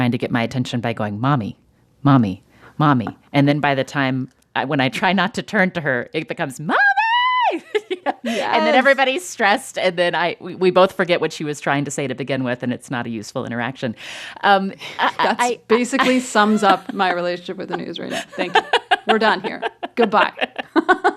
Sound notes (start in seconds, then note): 6.5 shouting; 7.6 laughter